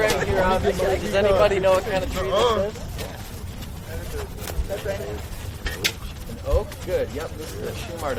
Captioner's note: audience speaking